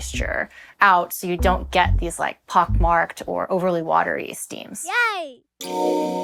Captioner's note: child's voice: yay!